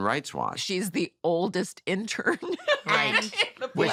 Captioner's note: laughs